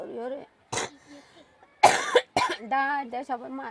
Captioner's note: coughs